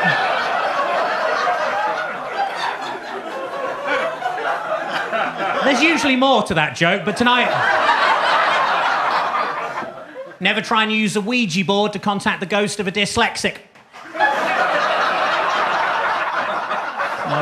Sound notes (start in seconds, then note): 2.2 audience laughing; 8.5 audience laughing; 13.9 audience laughing